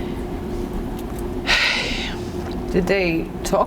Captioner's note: sighing